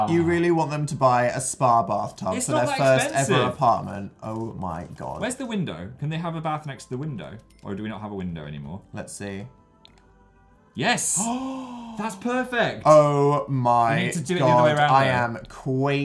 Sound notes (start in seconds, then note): 11.2 gasps